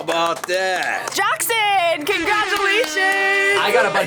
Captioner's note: air horns blaring